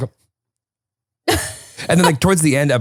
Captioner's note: laughs